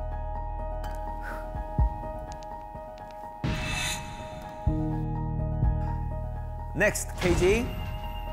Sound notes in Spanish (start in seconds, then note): 1.1 ¡Whew!